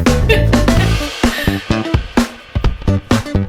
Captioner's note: laughs